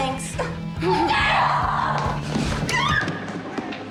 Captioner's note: giggles; yelling